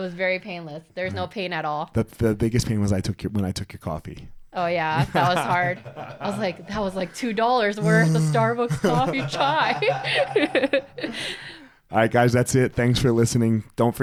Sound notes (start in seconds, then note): 9.9 both laughing